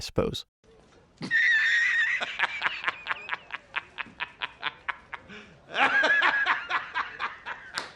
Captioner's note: quality laughter, 10/10 performance